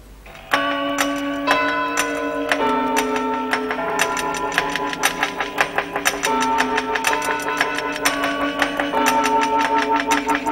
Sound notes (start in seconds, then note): 0.2 clock ticking and chiming; 6.0 ticking and chiming